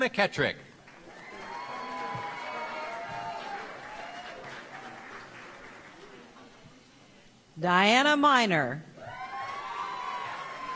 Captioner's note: applause